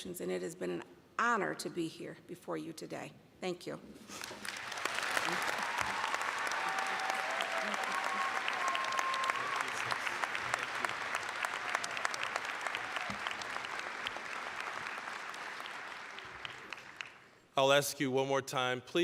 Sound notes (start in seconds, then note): 4.2 applause, cheering; 13.9 applause